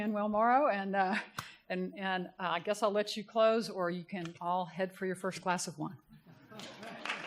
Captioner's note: applause